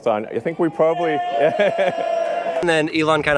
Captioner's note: audience cheers